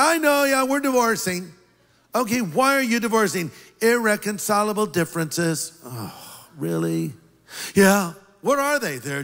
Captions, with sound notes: "I know. We're divorcing." "Okay, why are you divorcing?" "Irreconcilable differences." (heavy sigh) "Really?" "Yeah." "What are they?"